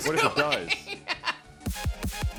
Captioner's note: laughs; introduction music